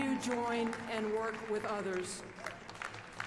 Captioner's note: applause